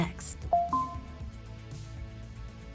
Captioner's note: subdued rhythmic music continues; notification pinging